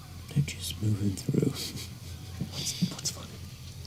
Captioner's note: laughs